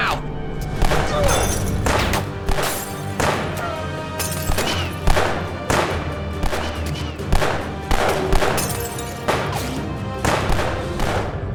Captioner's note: gunfire